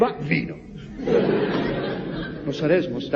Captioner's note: laughs